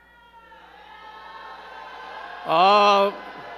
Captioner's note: crowd shouting